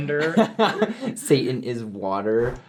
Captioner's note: laughs